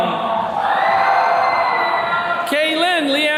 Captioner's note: attendees cheering